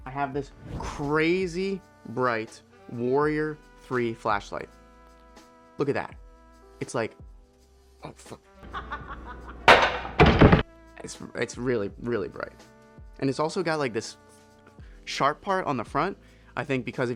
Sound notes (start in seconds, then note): 8.7 child laughing; 9.6 chair thumping